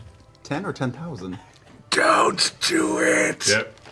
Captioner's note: stage whisper